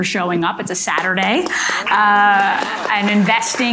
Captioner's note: audience applauding